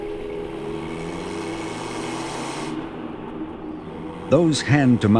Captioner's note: engine rumbles